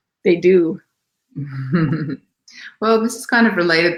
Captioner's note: laughs